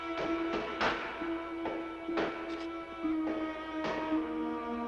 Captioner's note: boards banging